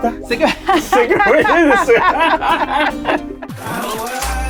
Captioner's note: laughter